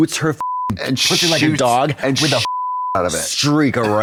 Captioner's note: beep